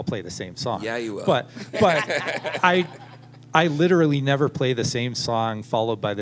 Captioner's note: laughter